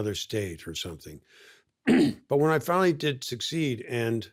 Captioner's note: clears throat